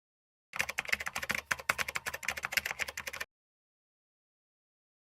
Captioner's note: computer keys clicking